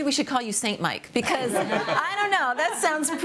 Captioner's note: laughs